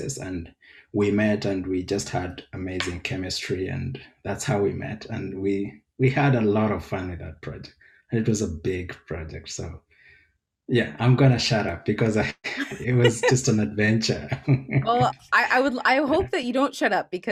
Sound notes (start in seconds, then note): 14.1 chuckles